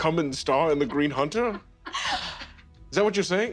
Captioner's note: more quiet laughter